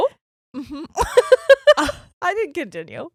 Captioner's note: giggles quickly